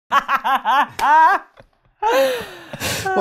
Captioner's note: laughing